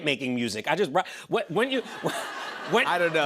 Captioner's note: laughter